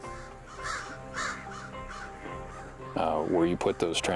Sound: birds crow

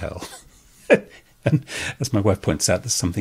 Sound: chuckles

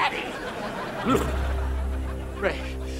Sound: groaning

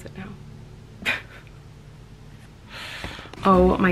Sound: laughing

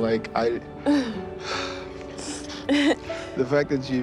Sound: sighs, sniffles; laughs

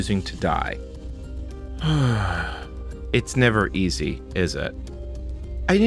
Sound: sigh

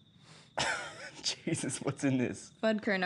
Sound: laughs

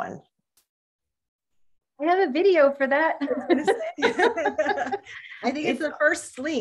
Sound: laughter

